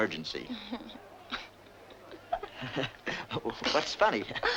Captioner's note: gentle chuckling